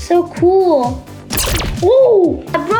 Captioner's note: robotic gun firing